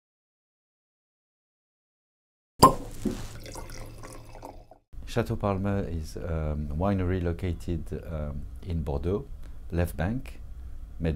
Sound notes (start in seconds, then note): 2.6 cork pop; 2.6 liquid pouring